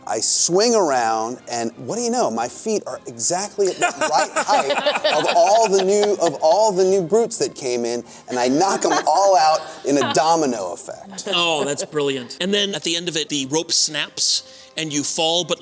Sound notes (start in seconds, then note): 3.6 laughter